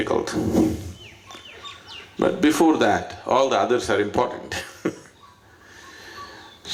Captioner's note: laughs